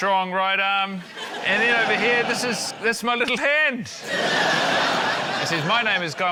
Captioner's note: laughter